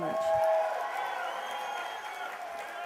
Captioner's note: cheers and applause